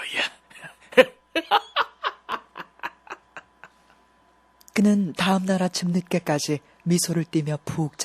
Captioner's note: laughs